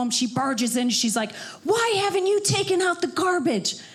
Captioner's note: none